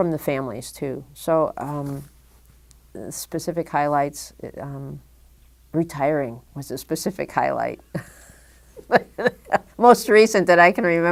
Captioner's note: chuckle